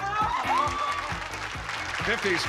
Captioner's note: applause, cheering